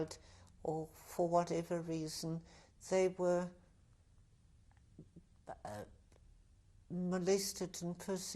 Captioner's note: pauses for 3 seconds